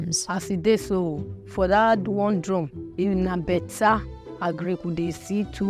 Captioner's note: speaking in foreign language